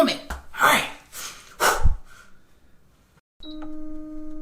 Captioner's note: exhales; mechanical whirring